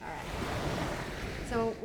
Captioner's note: waves crashing